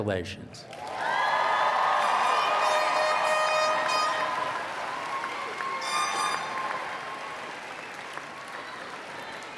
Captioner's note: applause